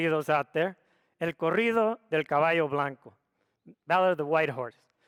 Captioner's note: speaks foreign language